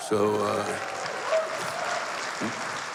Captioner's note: cheers and applause